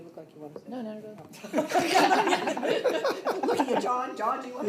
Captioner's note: laughter